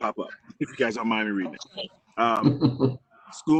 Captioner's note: laughs